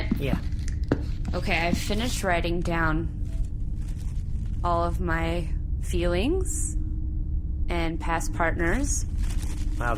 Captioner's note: rustles paper